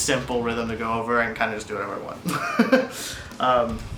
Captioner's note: chuckles